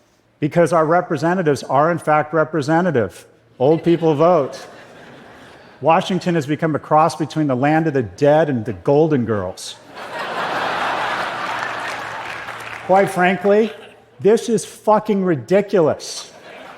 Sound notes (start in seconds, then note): 9.8 laughter